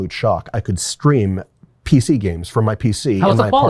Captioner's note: faintly speaking